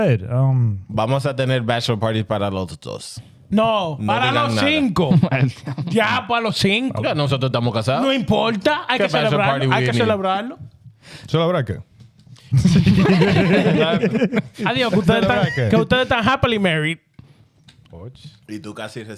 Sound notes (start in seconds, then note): 4.8 laughing; 4.8 speaking In Foreign Language; 16.0 speaking In Foreign Language